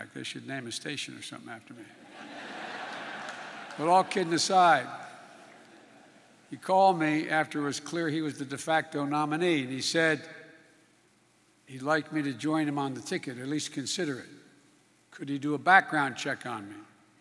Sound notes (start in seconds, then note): 2.0 laughter